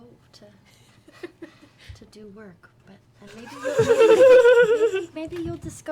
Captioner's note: laughter